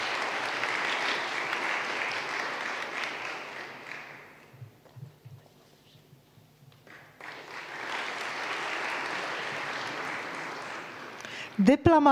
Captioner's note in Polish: oklaski